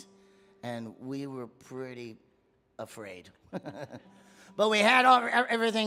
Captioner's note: laughs